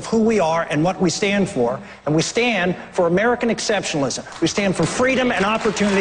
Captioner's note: applause